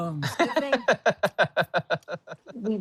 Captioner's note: laughing